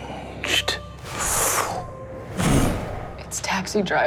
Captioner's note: whooshing